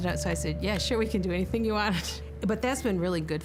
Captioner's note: laughing